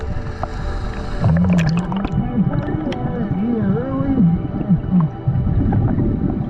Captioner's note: muffled underwater speaking